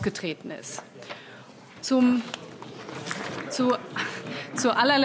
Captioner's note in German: Beifall : Next one!